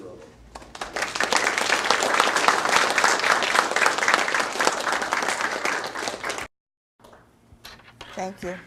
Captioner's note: audience applause